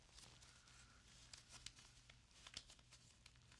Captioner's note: notes rustle